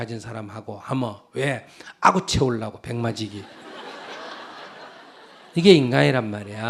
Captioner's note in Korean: 청중 웃음